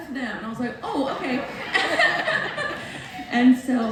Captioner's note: laughs